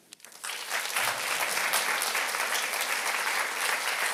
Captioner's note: audience applauding